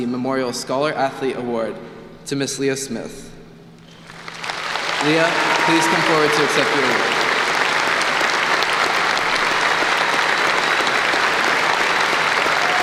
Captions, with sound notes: Memorial Scholar Athlete Award to Miss Leah Smith. Leah, please come forward to accept your award. [APPLAUSE]